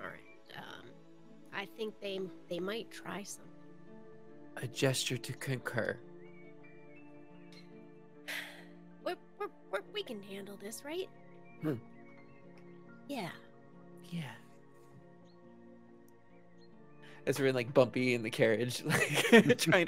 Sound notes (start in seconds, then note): 8.2 sighs